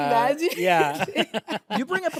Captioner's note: laughs